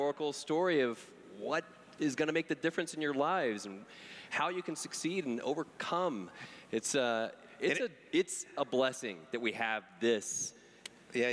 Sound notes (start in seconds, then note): none